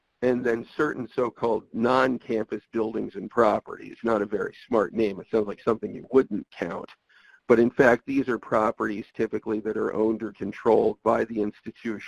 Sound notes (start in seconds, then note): none